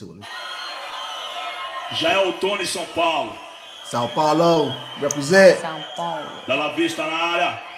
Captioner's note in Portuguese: Aplausos